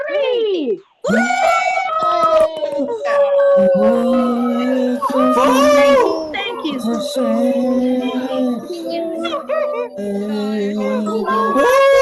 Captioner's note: cheering